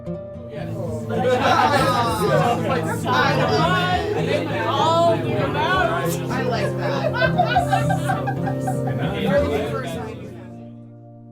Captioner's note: group chatter